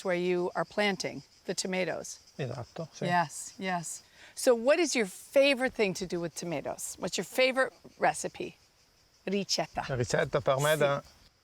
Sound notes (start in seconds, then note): 8.5 speaks Italian